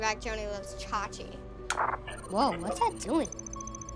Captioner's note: radio crackling